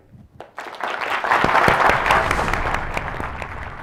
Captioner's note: applause